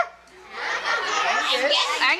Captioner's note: audience laughs